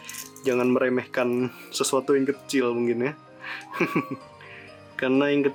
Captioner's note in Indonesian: tertawa